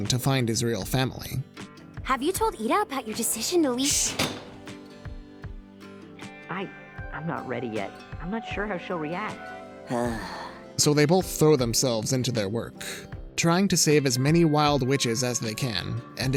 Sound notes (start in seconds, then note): 3.1 shushes; 3.8 window shuts; 9.8 exhales